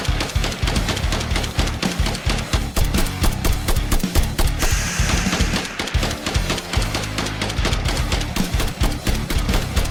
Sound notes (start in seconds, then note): 4.6 scorpion hisses